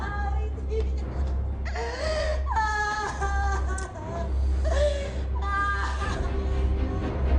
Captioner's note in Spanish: Sollozos